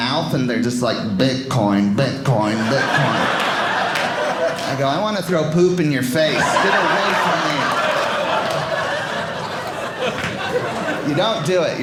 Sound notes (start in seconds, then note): 6.1 audience laughing